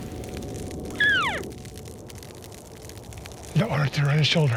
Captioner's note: hunter calls